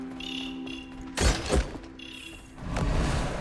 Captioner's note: footsteps pattering; chest clangs; icon whooshes